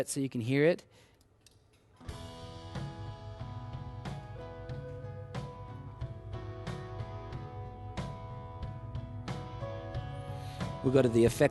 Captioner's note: male vocal sounds through speakers